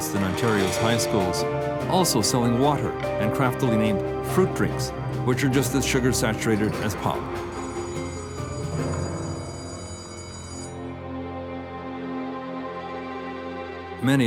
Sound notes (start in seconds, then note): 7.6 bell ringing; 10.7 somber music